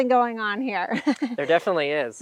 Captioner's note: woman laughs